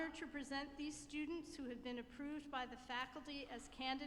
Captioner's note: none